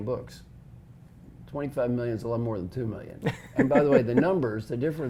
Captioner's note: laugh